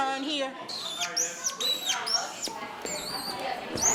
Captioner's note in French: grincement du marqueur